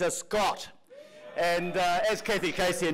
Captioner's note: audience cheers